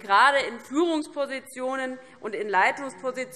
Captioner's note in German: none